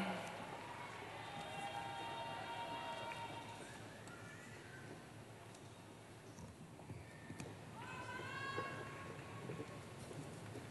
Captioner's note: cheering